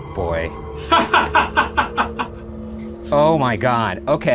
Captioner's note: laughs